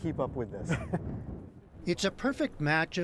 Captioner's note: laughter